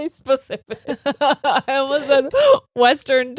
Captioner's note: both laughing